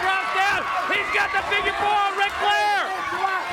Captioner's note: crowd cheering